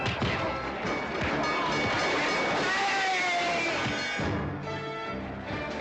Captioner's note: bell ringing